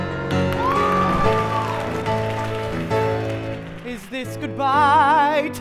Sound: applause

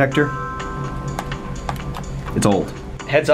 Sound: surge protector rattling

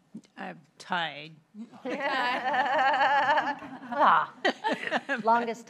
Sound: laughter

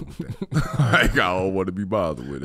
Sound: both laughing

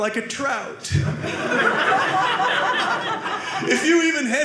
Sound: audience laughing

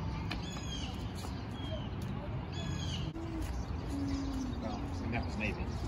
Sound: birds chirping

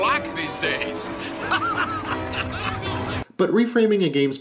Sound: boisterous laughter

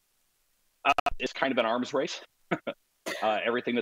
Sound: laughs

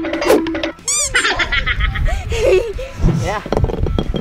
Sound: timer counting down; laughing

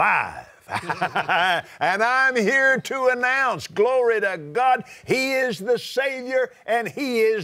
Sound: laughs

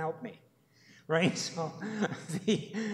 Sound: chuckles

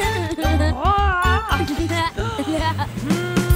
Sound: yells

